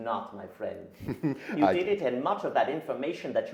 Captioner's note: laughs